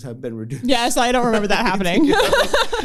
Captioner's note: laughter